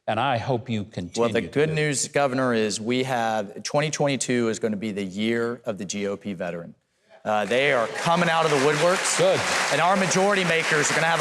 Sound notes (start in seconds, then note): 7.3 audience clapping